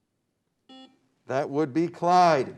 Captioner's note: beep